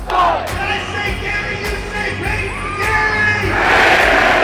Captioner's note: man on megaphone